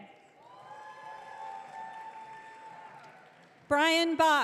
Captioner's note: audience cheering